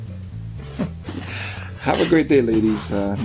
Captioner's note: Morales chuckles